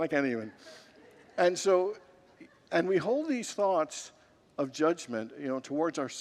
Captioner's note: congregants laugh